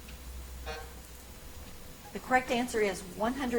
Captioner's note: timer buzzes